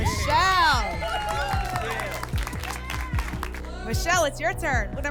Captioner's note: applause and cheering